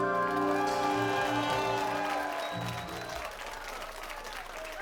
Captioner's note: song ends; applause and cheers